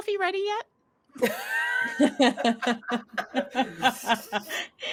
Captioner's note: laughing